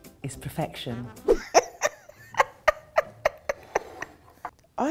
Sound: laughing

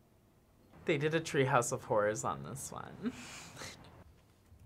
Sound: laughs

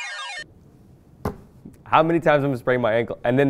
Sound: playful electronic music; thumps desk

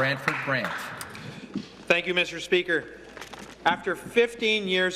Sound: applause

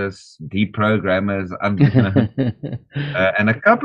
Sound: chuckles

